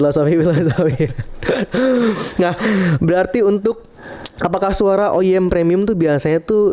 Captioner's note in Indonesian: tertawa